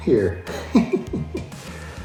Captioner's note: laughs